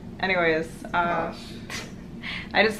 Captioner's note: sort of scoffs?